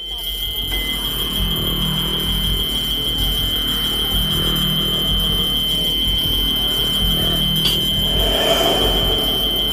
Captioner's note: shrill, high-pitched tone with low humming